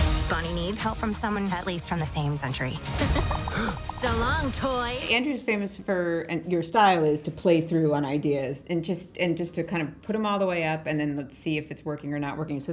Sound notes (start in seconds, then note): 2.9 giggles; 3.3 gasps